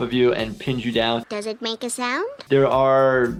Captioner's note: none